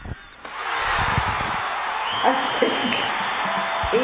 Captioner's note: crowd cheering